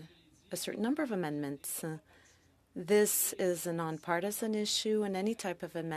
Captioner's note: speaking French